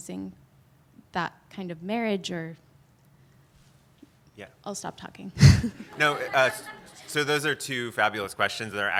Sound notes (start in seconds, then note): 1.9 pause; 5.6 audience laughs